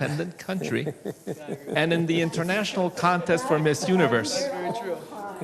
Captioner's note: laughs